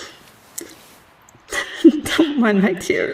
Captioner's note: kiss